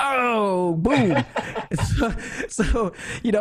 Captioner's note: laughs